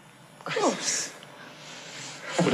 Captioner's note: laughs